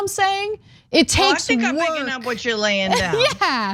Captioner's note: laugh